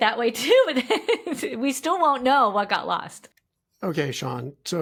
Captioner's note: laughs